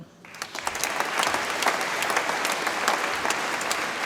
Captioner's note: audience applauds